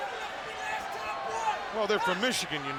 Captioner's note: Scott shouting